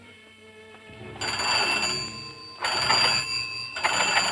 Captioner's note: ringing